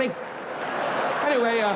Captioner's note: audience laughs